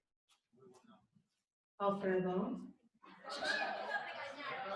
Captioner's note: laughter and audience rumblings